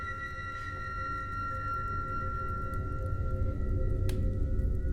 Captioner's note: none